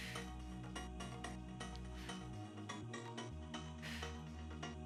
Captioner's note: exhaling deeply; upbeat lively music